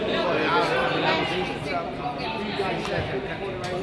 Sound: crowd chatters

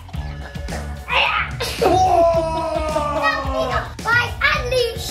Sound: grunting

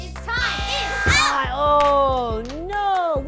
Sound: buzzer

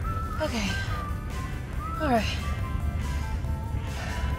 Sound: deep breath

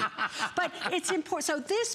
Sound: laughter

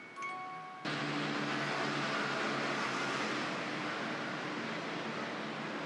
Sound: music box continues; motor whirring in the distance

